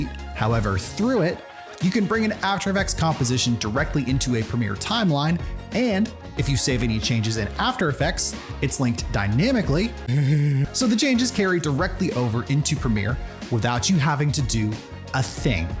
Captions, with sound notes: However, through it, you can bring an After Effects composition directly into a Premiere timeline - and if you save any changes in After Effects, it's linked dynamically... [stupid laugh] ...so the changes carry directly over into Premiere without you having to do a thing.